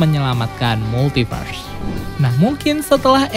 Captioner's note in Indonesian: suara transisi